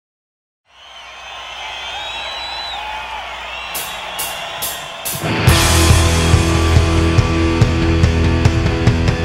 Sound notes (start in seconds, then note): 0.6 crowd cheering; 5.3 upbeat rock music